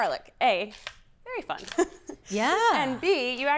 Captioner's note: laughs